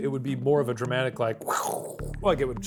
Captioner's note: makes scraping sound